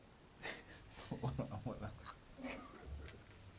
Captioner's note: chuckles